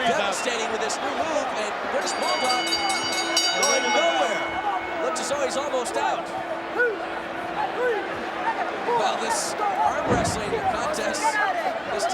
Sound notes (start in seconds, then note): 2.4 bell rings